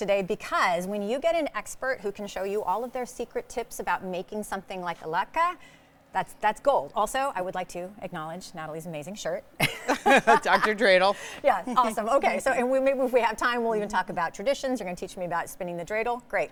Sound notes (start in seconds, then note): 9.6 both laughing